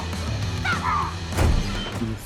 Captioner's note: both grunting; yells